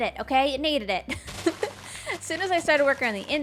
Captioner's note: laughs